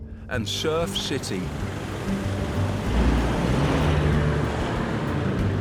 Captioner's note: engines rumbles